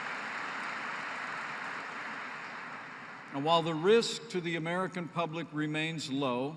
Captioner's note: applause